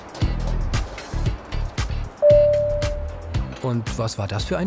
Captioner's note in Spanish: Gong